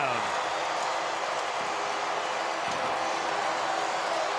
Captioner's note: crowd cheering